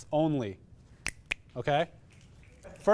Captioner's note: fingers snap twice